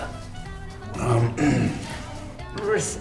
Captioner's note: Nathan Page clears his throat